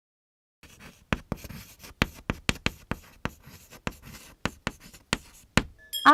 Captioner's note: writing on chalkboard